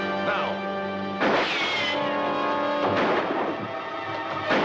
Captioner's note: guns firing